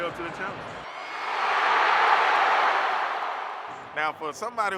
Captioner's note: crowd cheering